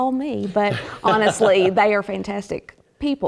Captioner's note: laugh